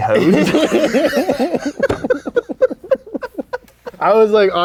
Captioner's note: laughing